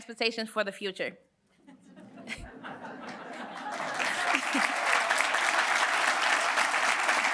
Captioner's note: laughing